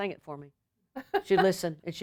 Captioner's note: laughter